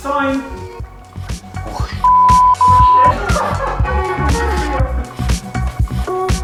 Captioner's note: laugh